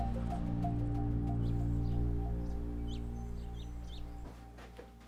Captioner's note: birds chirping; ominous electronic accent